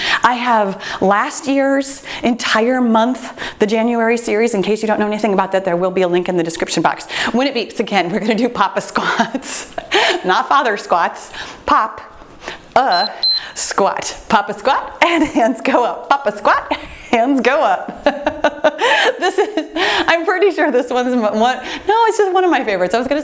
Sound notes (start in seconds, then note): 8.9 laughs; 12.8 timer beeps; 17.8 laughs